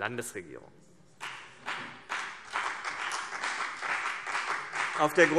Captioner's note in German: Beifall CDU und BÜNDNIS 90/DIE GRÜNEN